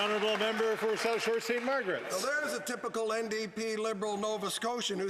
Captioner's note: some Applause